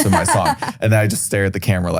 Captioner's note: laughs